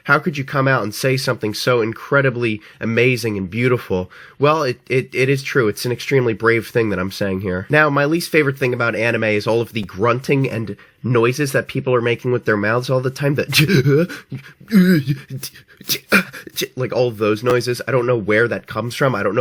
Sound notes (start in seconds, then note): 15.8 proceeds to make cringy grunting sounds